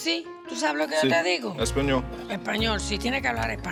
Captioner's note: speaks Spanish